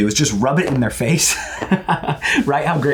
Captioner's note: laughs